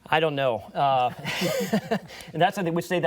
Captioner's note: laughter